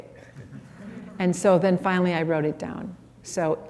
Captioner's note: laughter